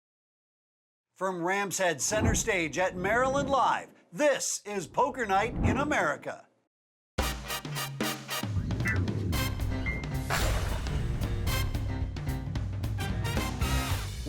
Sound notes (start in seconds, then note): 1.2 voiceover; 7.2 upbeat, jazzy music